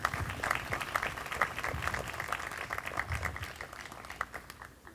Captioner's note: group applauding